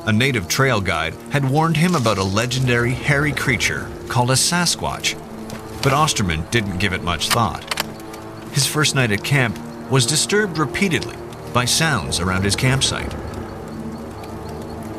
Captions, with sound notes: A native trail guide had warned him about a legendary hairy creature called a Sasquatch, but Austraman didn't give it much thought. (gun clicking) His first night at camp was disturbed repeatedly by sounds around his campsite.